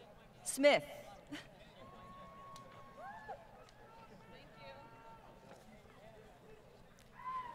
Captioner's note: crowd Cheering